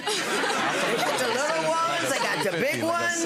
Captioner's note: audience laughs